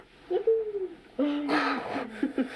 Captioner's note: laughing